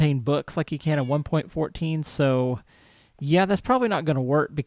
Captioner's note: cat meows